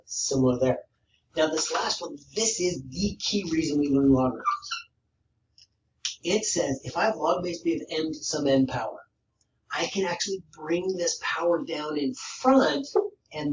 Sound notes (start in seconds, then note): 4.3 marker squeaks